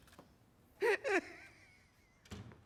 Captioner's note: sobbing continues